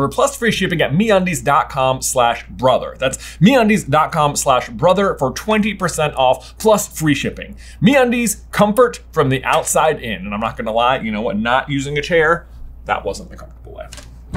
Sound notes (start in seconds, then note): none